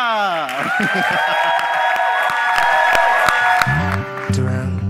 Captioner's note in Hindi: जय-जयकार करना